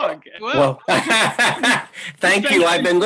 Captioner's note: laughs hysterically